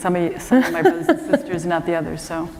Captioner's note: laughter